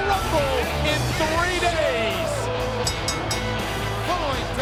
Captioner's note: bell ringing